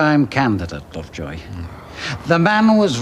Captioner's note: Lovejoy sighing